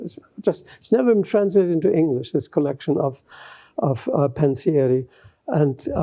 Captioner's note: italian